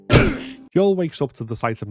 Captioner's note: impact sound